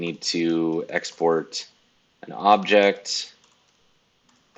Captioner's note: keyboard keys clicking